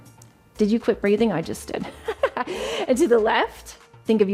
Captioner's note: chuckles